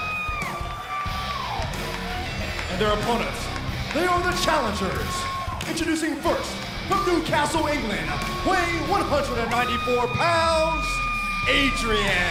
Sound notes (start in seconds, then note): 3.5 crowd cheering